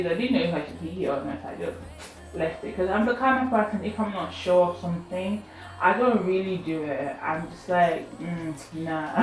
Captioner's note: mtcheew